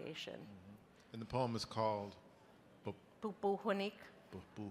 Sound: speaking in a foreign language

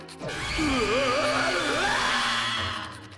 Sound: screaming

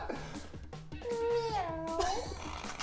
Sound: meow; laughing

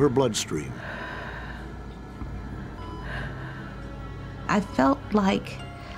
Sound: laboured breathing

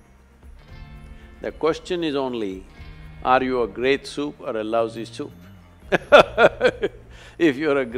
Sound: laughs

